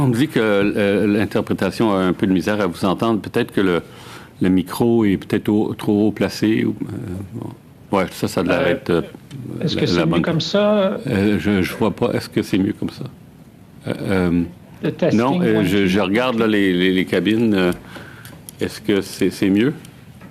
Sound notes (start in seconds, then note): 2.5 speaking French